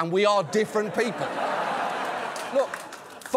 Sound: audience laughs

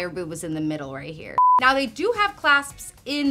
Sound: screen beeping

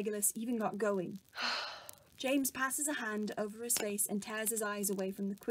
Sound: James sighs

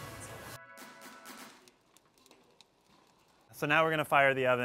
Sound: fire crackling

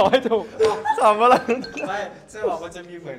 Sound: laughs like a high vocal artist

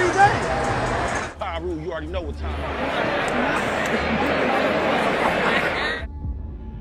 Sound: crowd chatter; crowd chatter

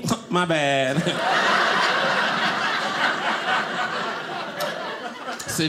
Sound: audience laughing

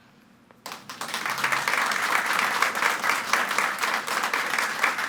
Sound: audience clapping

